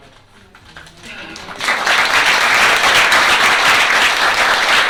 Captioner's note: applause